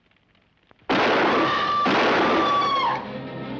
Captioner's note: guns banging; screaming; dramatic music